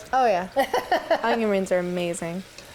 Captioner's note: chef laughs